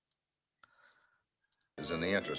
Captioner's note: audio playback